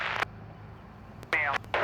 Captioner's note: static